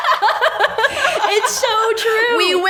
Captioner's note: laughs